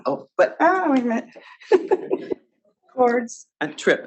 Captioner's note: laughs